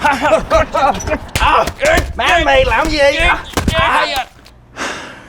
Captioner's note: nephew loan shark grunting